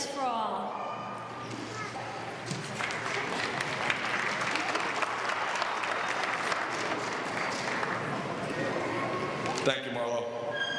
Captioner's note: applause